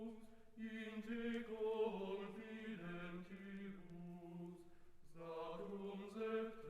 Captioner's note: chanting continues